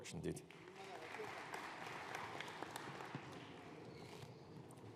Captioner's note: audience applauding